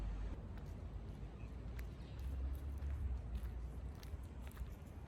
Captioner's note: footsteps on dried out leaf matter and berries